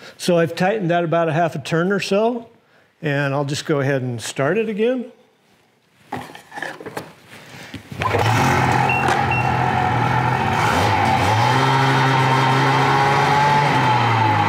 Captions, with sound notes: So, I've tightened that about a half a turn or so. And, I'll just go ahead and start it again. (engine revving) (beeping)